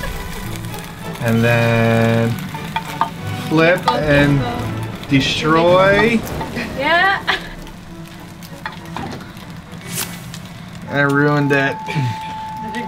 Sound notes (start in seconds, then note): 6.2 laughs